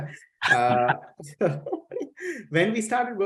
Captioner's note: chuckling; both chuckling